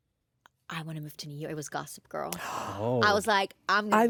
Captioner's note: gasps